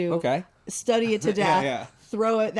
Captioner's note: laughs